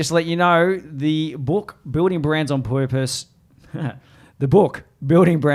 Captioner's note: laughs